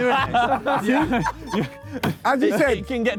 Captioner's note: Sidemen laugh